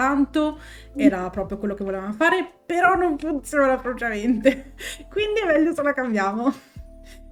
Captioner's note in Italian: risate